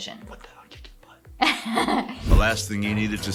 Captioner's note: whispering